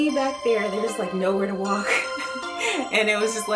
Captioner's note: laughs